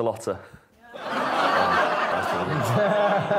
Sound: audience groans; laughs

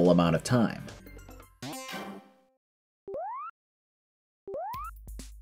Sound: silence

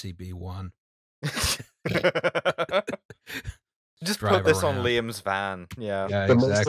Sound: laughter

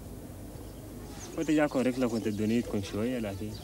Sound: non-english speech

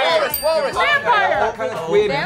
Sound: bells dings

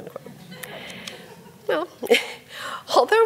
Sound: audience laughs

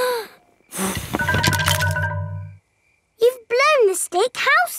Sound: blowing

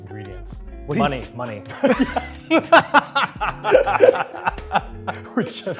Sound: Phil and Eugene laughing

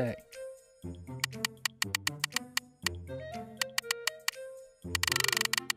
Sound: clicking; jovial music

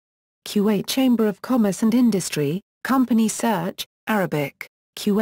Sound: Arabic

